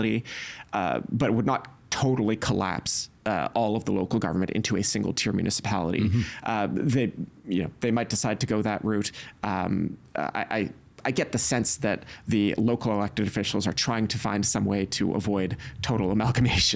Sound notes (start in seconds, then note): 8.8 stammering